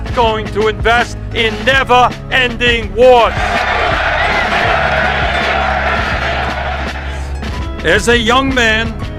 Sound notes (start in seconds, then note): 3.2 crowd cheering